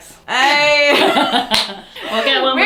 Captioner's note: both laugh